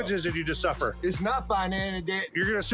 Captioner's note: stammering